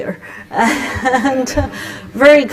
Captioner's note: laughter